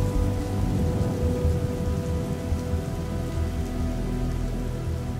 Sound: rain sounds fading

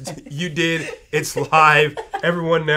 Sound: laughs

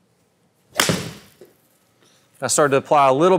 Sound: golf ball clanks

